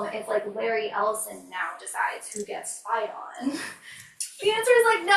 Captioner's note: laughs